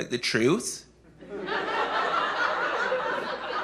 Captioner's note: laughter